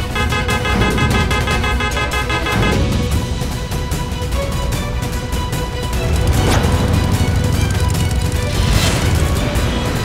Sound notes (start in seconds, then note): 0.0 horn honking; 6.8 motorcycle approaching